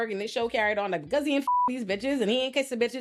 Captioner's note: beep